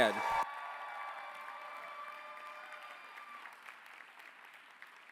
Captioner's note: applause